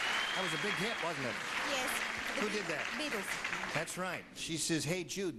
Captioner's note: applauding